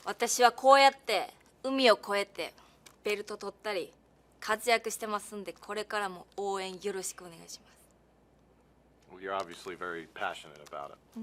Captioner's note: speaking japanese